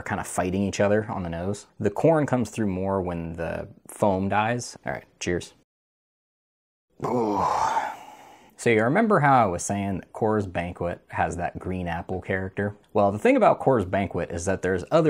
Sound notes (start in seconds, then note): 6.9 groan